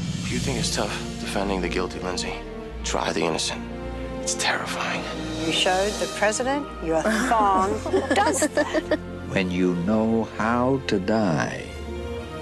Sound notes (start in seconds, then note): 7.0 laughing